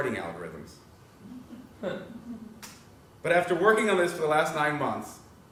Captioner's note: laugh